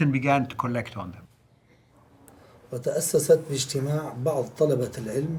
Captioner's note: speaking in Arabic